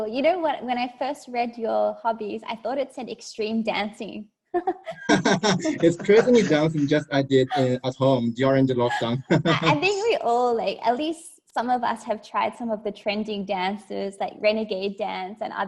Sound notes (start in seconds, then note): 4.8 laughs